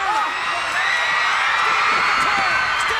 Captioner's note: crowd cheers